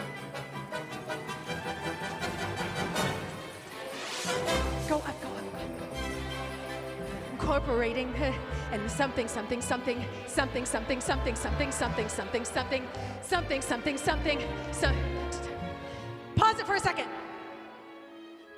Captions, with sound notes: (WHISPERING) Go up. Go up. Go up. Incorporating and something, something, something. Something something something something something something something. Something something something. Some-- Pause it for a second.